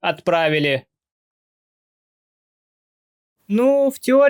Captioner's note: silence